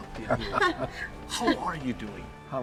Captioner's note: chuckles